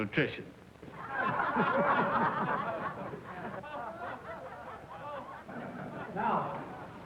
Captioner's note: laughter